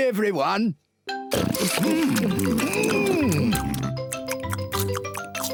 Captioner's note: all chomping